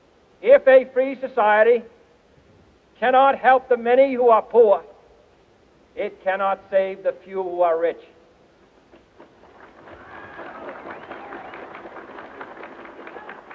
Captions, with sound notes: If a free society cannot help the many who are poor, it cannot save the few who are rich. (audience cheering)